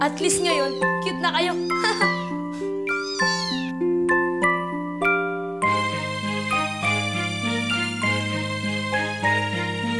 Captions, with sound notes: At least now, you look cute! [chuckles] [meowing]